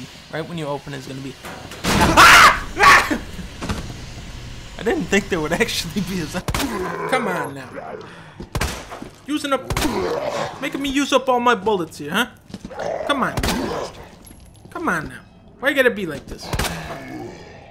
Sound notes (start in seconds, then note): 2.7 chuckle; 6.0 laughing